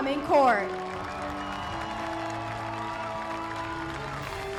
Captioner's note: applause continues